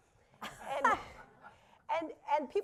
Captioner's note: laughter